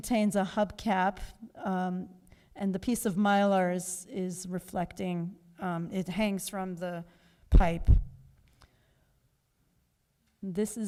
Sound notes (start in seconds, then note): none